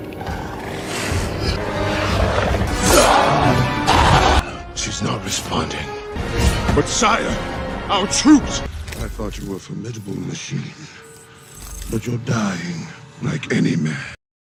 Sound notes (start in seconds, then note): 0.0 growls; 0.0 snarls; 3.7 roaring in pain